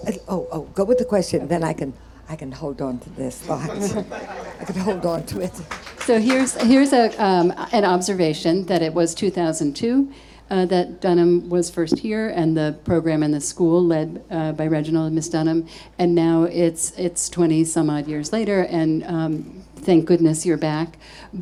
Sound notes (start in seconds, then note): 3.4 audience laughing; 7.7 audience clapping